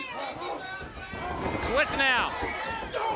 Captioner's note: audience hollers